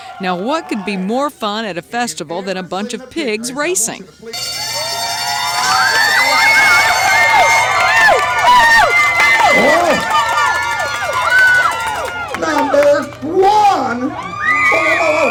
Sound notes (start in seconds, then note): 4.6 bell ringing; 5.9 spectators cheering